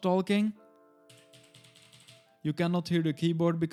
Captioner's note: keyboard clicks